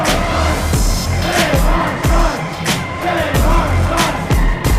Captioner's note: chanting continues